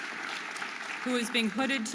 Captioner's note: audience applauding and cheering